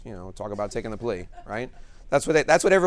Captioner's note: attendee laughs